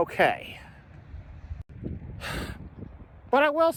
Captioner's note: sighs